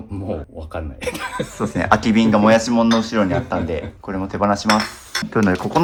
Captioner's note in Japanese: 笑い